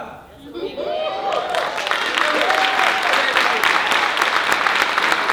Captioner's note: audience cheering and applauding